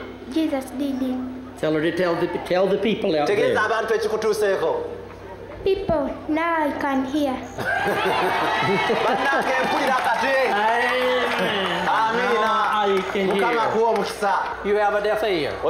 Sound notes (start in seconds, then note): 7.6 laughter; 7.6 applause and laughter